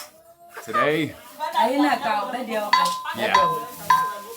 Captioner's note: women speaking in foreign language